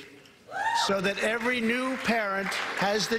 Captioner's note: applause